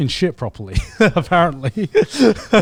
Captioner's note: laughs